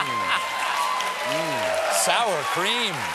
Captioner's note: laughter